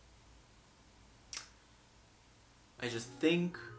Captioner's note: clicks tongue